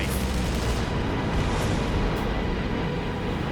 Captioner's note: booming